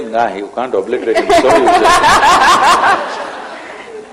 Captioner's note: laughter